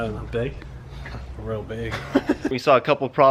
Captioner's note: laughing